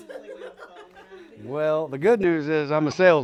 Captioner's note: laughter